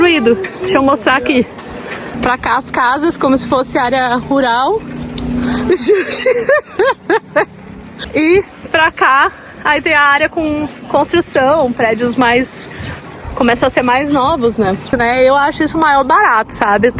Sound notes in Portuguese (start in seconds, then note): 5.5 risadas